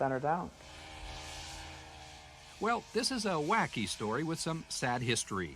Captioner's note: snow mobile hums